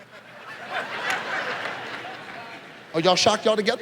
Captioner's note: audience laughs